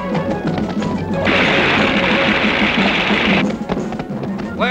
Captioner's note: horses clattering; liquid splashing